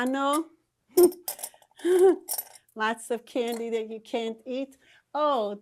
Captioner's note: laughing